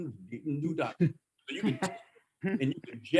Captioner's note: laughter